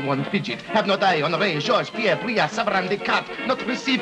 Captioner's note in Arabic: يتمتم